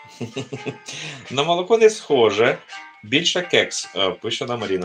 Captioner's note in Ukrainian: сміх